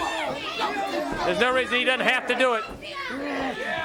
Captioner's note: crowd chatter